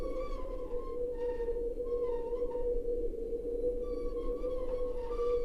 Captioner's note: wind whistling continues